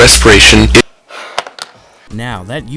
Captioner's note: exasperated sigh